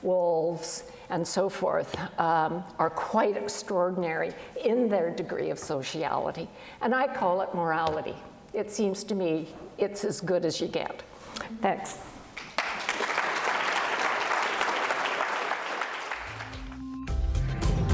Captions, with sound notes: wolves, and so forth are quite extraordinary in their degree of sociality, and I call it morality. It seems to me, it's as good as you get. Thanks. (applause)